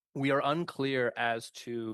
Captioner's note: speaking French